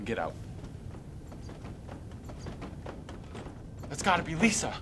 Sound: footsteps thudding

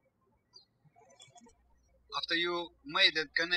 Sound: birds chirping

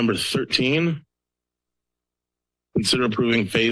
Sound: pause

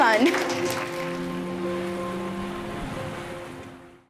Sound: audience applauding

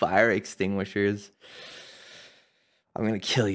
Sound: slow inhale

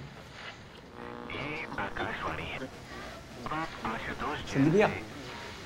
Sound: news playing on Radio

